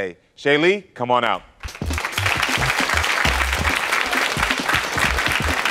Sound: audience applauds

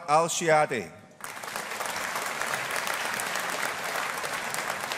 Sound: audience applauding

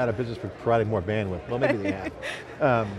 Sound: laughs

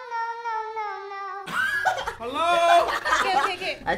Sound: laughing

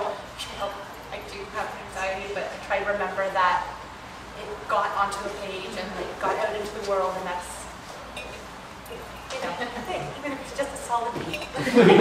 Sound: laughter

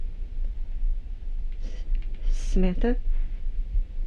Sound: none

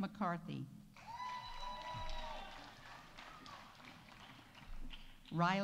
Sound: audience applauding; audience cheering

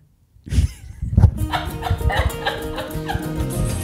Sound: laughs; upbeat music

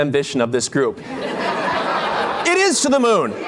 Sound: laughter

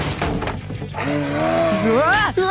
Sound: growling; screaming

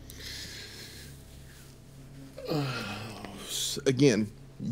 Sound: groans

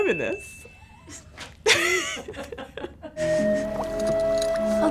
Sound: both laugh

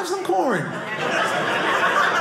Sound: audience laughing

